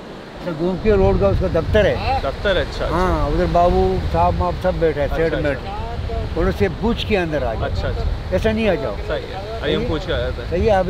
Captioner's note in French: Langue locale